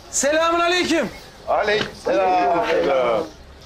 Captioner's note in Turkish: Hep bir ağızdan